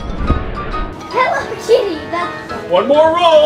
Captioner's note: giggling